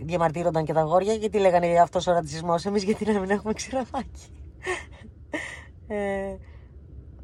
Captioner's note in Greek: γέλια